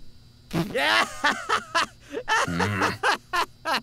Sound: laughs hysterically

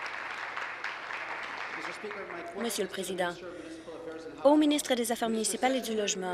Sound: applause

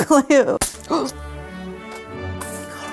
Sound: gasp

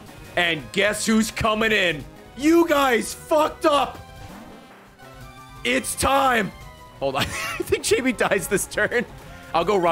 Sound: laughs

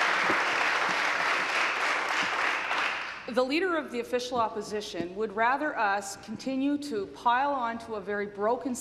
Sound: applause

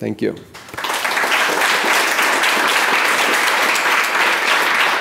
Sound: audience clapping

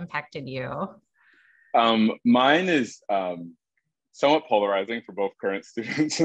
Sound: laugh

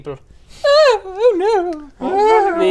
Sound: upper class wailing

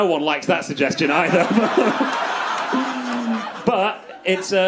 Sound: crowd laughs

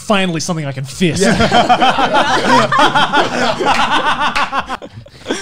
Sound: maniacal laughing

